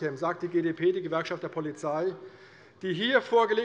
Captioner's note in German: none